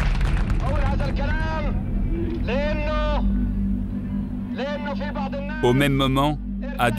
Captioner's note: arab spoken audio